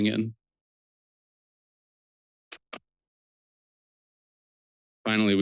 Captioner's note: pause